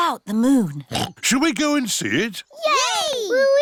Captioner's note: oinks